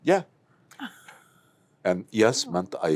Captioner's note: laughs